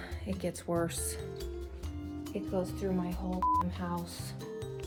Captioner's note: beep